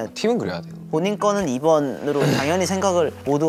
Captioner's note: haha